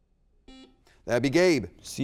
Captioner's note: buzzer beeps